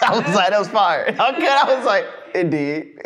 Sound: laughing

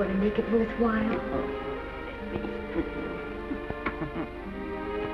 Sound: Granny chuckles

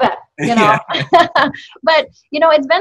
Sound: laughing

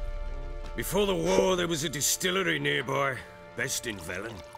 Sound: pops cork

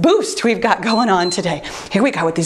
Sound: timer beeps

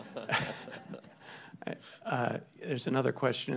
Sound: people laugh

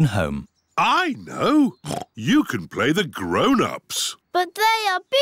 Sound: oinks

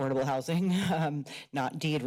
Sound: laughs

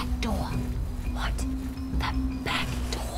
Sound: whispers

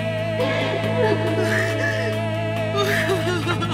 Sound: Natalie crying

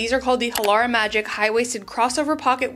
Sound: mouse clicks

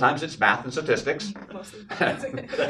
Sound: laughs

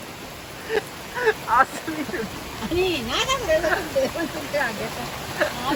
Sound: laughing

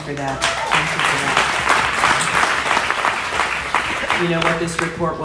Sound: audience applauds

